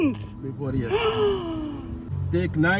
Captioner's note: gasps